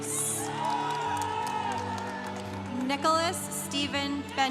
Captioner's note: congregation cheering